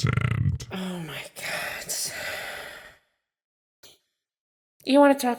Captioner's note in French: profond soupir las